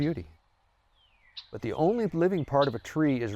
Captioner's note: bird chirping